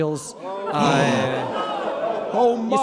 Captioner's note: audience groans